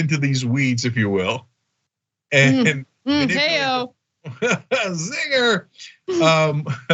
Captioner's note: laugh